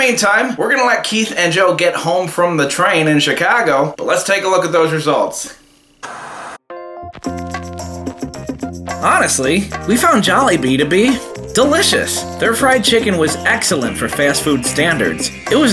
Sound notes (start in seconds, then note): 6.0 TV static; 7.2 jazzy music